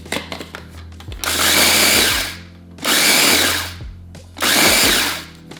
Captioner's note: blender buzzing